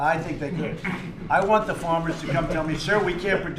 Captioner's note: laughter